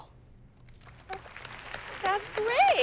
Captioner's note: applause